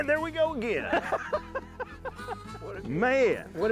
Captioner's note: laughs